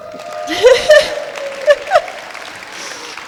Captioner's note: clapping